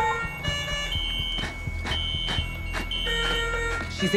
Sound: sustained high-pitched tone

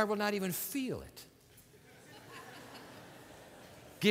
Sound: laughter

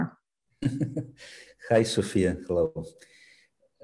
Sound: laughs

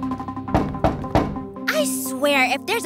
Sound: knock on door

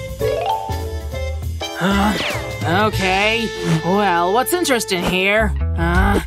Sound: groans

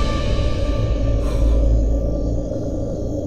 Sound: exhales

